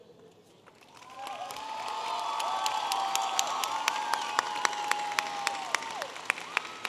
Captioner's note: audience applauding and cheering